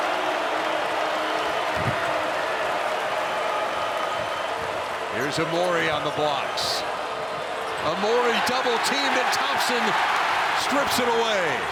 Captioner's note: applause